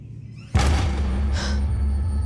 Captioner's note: gasping